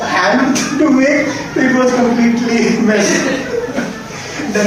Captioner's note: group is laughing